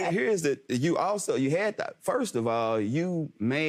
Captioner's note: stammers